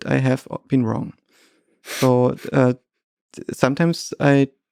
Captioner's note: Lex chuckles